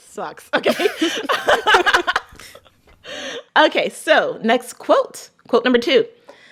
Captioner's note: laughter